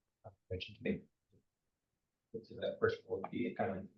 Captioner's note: speaker speaking faintly